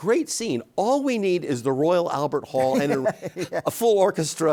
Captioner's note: David laughs